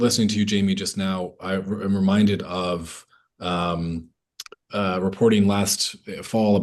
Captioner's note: lips smack